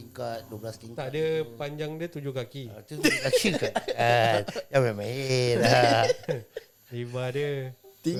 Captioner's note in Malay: ketawa